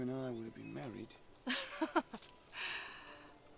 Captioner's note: Naga laughs